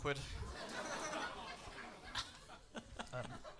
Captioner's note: laughs